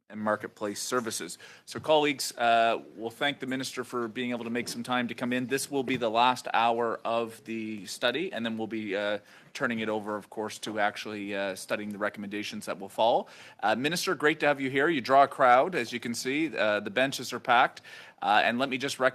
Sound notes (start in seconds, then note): 3.9 speaking French